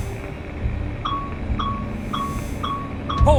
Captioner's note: beeping radar